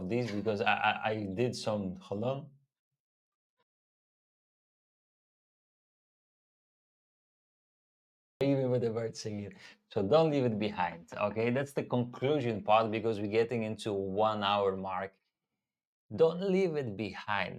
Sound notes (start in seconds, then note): 2.7 silence